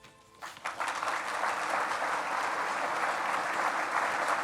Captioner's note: audience clapping